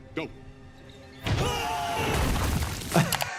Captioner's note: both yelling; laughing